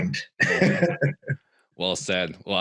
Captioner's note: all laughing